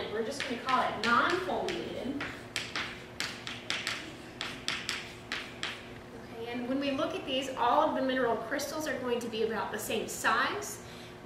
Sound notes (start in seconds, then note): 2.8 chalk writing on chalkboard